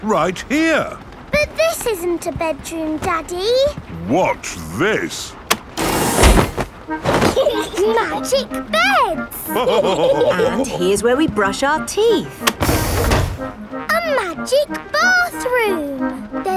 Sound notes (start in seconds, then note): 7.2 laughing; 9.4 all laughing